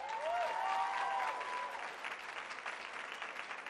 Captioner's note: cheering and applause